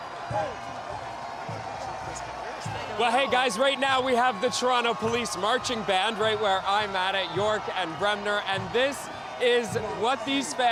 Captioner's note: chanting